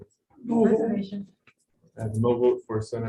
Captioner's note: talking in unison